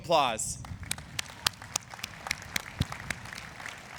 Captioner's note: clapping